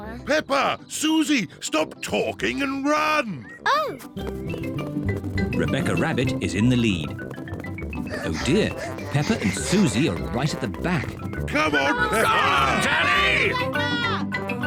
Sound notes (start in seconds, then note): 7.1 both panting; 11.6 all shout encouragement